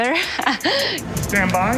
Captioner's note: giggles